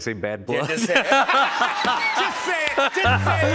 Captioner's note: laughter